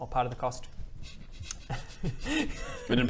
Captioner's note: suppressed giggles